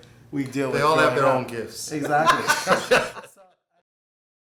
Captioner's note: laughter